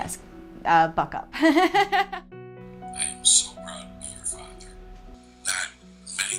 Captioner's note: laugh